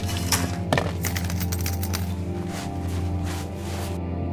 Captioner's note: coins clattering